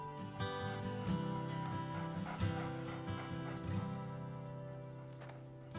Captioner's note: coyote panting